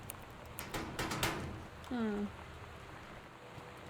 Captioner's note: lock Rattles